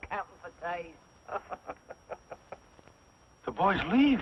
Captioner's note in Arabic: يضحك